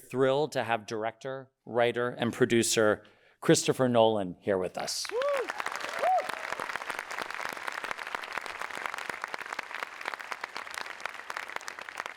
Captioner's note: audience cheering